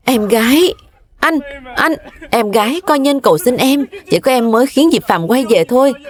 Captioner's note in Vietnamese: tiếng cười